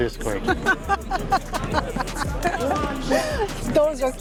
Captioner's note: laughs